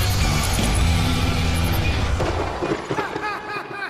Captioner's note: laughs; lightning strikes